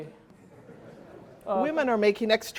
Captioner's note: laughter